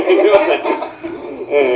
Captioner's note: laughter